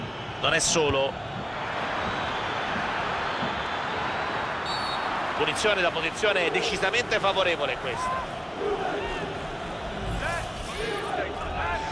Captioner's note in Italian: Applauso